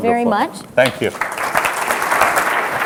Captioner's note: applause